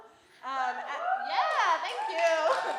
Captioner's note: audience cheering and applauding